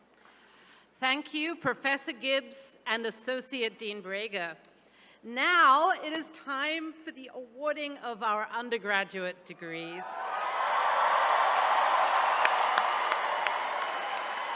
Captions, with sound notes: - Thank you Professor Gibbs and Associate Dean Brager. Now it is time for the awarding of our undergraduate degrees. (attendees cheering)